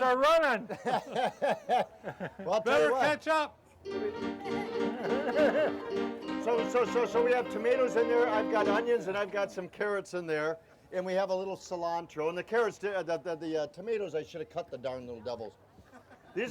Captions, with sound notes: - The tomatoes are running. (laughing) - Well, I tell you what. - Better catch up. (suspenseful piano music) (laughing) - So, so, so, so we have tomatoes in there, I've got onions and I've got some carrots in there, and we have a little cilantro. And the carrots, the tomatoes I should have cut the darn little devils.